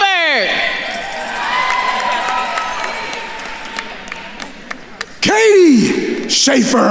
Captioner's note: attendees cheering and applauding